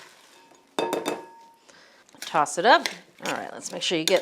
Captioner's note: bowls clank